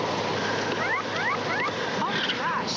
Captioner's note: <i> siren</i>